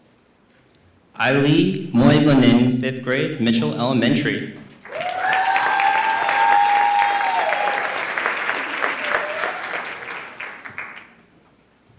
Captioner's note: applause